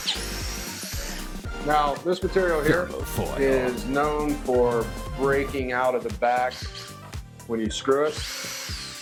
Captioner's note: drill